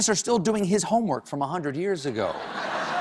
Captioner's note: laughter